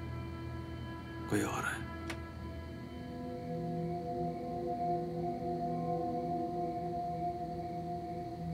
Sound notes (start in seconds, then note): 2.1 Door opens